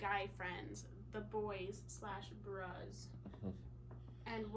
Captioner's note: laughs